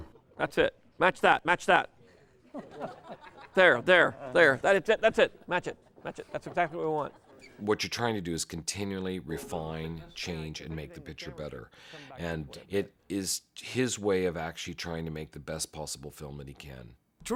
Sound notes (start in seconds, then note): 2.1 chuckling